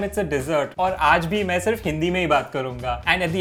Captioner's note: speaking in Hindi